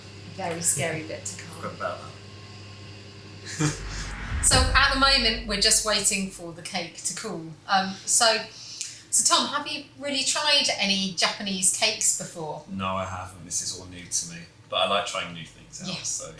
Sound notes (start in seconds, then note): 2.9 giggles nervously